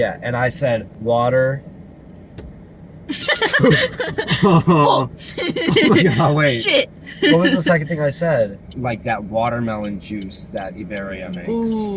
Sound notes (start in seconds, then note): 3.1 laughter; 6.5 laughing